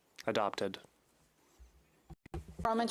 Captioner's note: speaking French